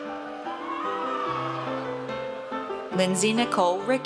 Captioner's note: audience cheers